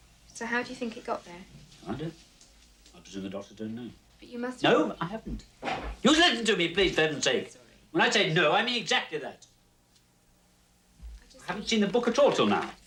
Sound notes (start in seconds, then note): 5.5 yells